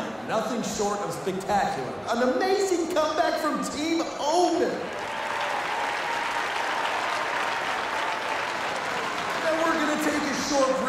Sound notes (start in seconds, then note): 4.8 audience applauding